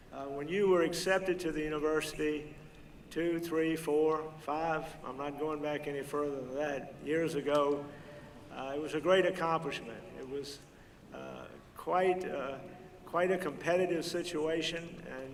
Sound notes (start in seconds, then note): none